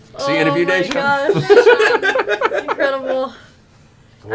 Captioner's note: laughter